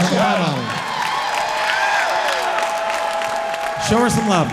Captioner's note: audience cheering and clapping loudly